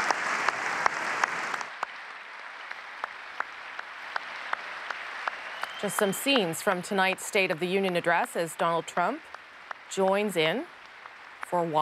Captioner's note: applause